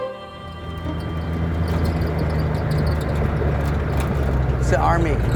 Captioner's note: vehicle squeaking and clanking